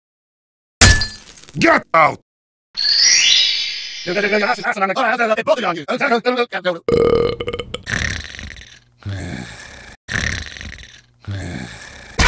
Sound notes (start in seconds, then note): 6.8 burp